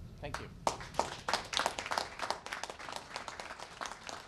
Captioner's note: applause